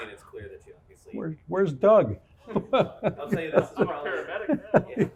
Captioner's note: laughs